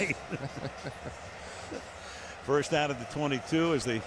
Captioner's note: laughter